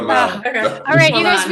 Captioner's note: laughs